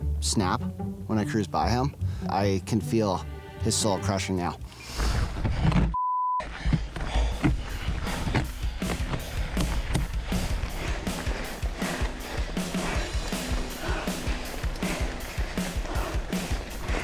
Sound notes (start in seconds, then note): 5.9 beep; 7.9 panting; 9.7 upbeat rock music